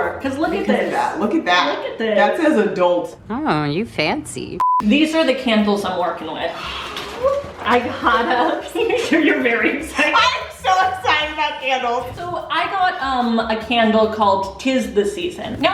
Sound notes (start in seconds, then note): 3.2 beeping; 6.9 gasping